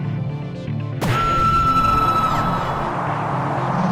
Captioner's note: microphone shouts